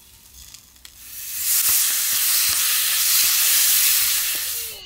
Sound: food sizzling

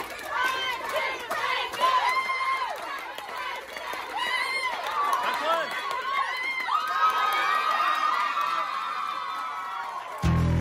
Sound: yelling and cheering; yelling and cheering

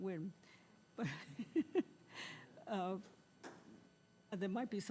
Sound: laughing

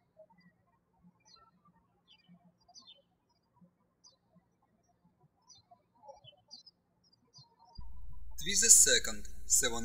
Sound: birds chirping

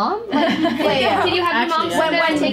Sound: students laughing

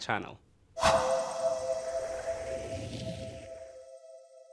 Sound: whoosh

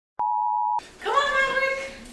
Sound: beep

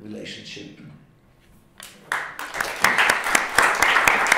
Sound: applause

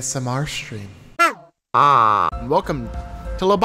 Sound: horn blats

